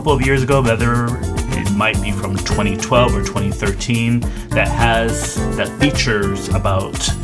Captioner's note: none